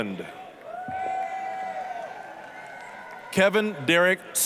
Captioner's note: applause, cheering